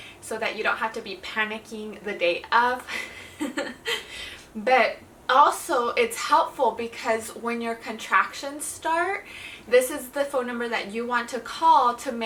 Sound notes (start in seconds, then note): 2.9 chuckles